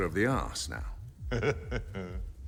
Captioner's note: chuckles